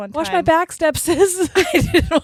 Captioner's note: both laughing